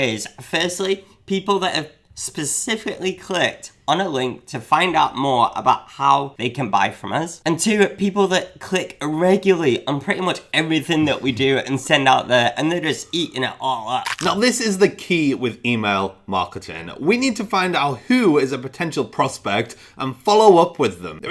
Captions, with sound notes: Firstly, people that have specifically clicked on a link to find out more about how they can buy from us, and, two, are people that click regularly on pretty much everything that we do and send out there, and they're just eating it all up (munching). - Now, this is the key with email marketing. We need to find out who is a potential prospect and follow up with them.